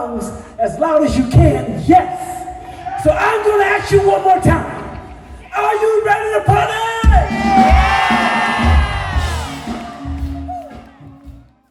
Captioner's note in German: jubel